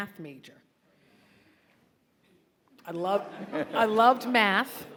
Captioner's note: audience laughing